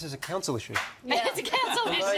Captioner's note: laughs